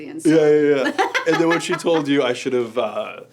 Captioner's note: laugh